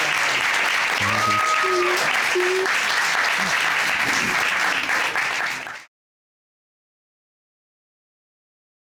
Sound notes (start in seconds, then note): 0.9 murmurs; 1.0 sobbing